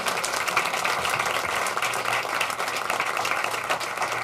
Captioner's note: applause